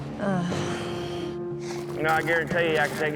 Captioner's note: sighs